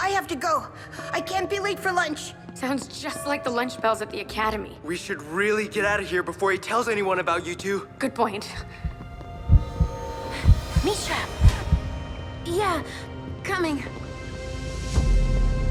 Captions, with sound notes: I have to go! I can’t be late for lunch! Sounds just like the lunch bells at the Academy. We should really get out of here. Before he tells anyone about you two. Good point. -[heartbeats] -[Mischa gasps] Mischa! Yeah. Coming.